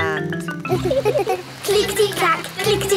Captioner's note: laughing